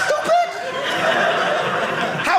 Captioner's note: audience laughing